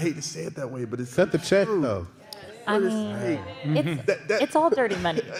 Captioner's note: audience murmuring agreement